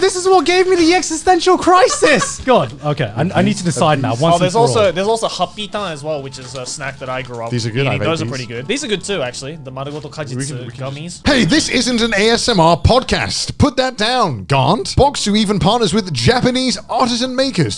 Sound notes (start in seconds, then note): 1.6 laughing; 5.6 speaking Japanese; 10.0 speaking Japanese